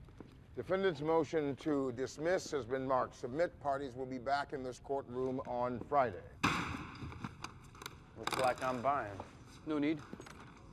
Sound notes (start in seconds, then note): 6.4 gavel bangs